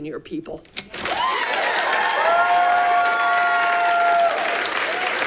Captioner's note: audience applauding